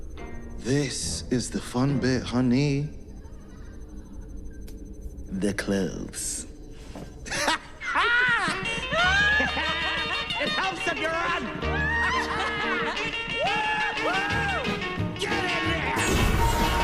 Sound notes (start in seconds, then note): 9.0 both laugh; 12.1 laughs